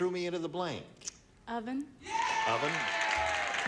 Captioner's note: cheering